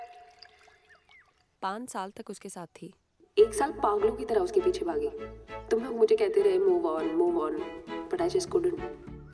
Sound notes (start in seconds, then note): 3.3 Sameera on speaker